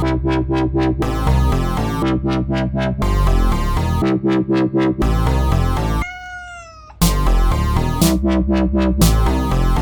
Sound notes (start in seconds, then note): 6.0 meow